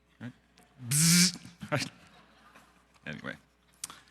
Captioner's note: Kippen buzzing